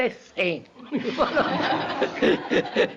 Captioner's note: laughter; K laughs